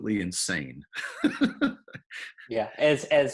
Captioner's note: laughs